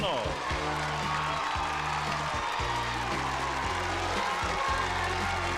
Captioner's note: screams and applause